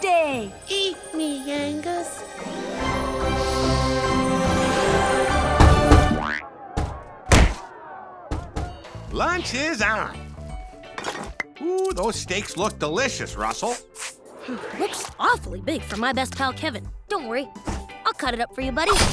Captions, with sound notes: Eat me, Angus. [sniffing] Lunch is on. Ooh, those steaks look delicious, Russell. Looks awfully big for my best pal, Kevin. Don't worry. I'll cut it up for you, buddy.